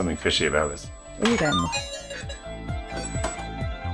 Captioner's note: game beeping